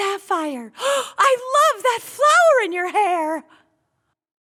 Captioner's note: gasp